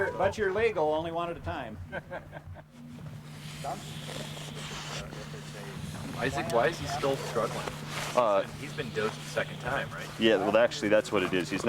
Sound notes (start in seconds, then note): 1.8 people laughing; 3.8 wolf heavily breathing